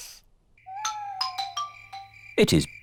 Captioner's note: owls hoot